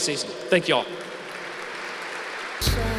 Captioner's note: applause